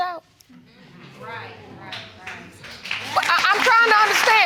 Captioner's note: audience applauding